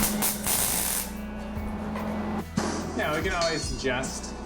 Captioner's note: welder buzzing